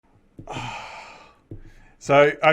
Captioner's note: sighs